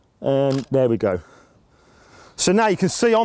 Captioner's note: camera click